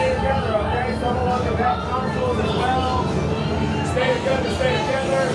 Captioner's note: overlapping ship noises